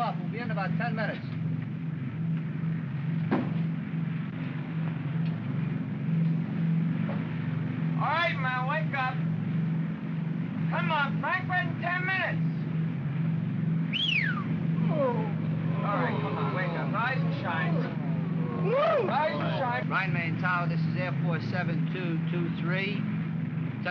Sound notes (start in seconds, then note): 2.2 aircraft rumbles; 3.2 feet thump; 4.5 aircraft rumbles; 13.8 whistles loudly; 14.8 men groan; 18.5 men grumble